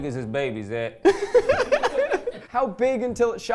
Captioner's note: laughing